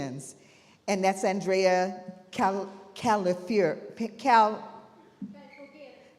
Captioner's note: stammering